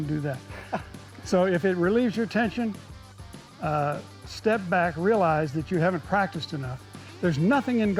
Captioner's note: laughs